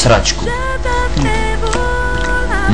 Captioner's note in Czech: Mláská